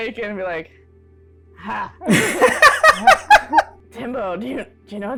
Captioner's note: laughter